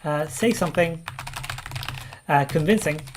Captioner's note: keyboard keys clank